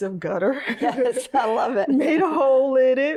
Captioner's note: both laugh